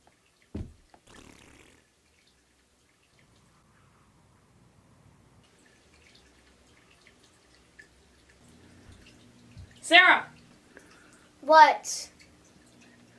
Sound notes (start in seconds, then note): 0.9 Sarah blowing bubbles; 4.4 water flowing